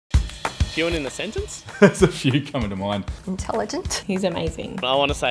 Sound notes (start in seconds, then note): 0.1 upbeat music; 1.7 laughs